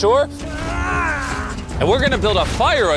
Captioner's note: grunting